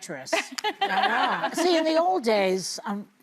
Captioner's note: laughing